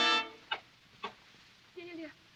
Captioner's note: coughing